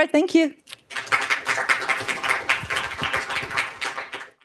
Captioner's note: applause